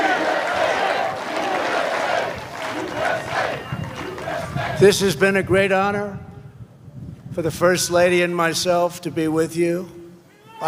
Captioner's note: chanting "u.s.a.!"